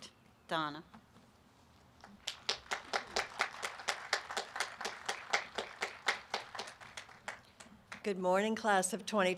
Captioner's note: applause